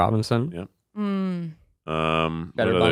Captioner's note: hums